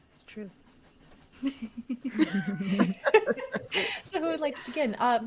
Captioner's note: all chuckling